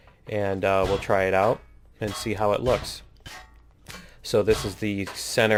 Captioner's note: pinging